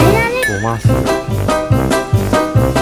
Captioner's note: laughs